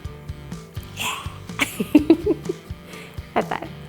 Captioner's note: giggles